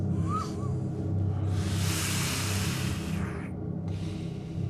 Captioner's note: Jimmy whistles and puffs